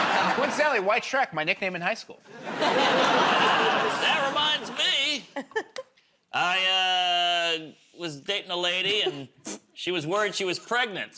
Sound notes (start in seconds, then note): 2.3 laughter